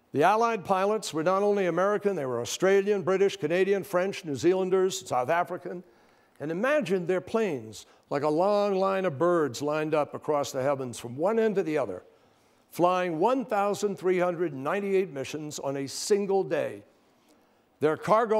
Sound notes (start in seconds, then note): none